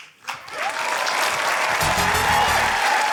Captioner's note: cheering, applause